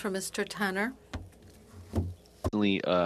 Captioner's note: speaking French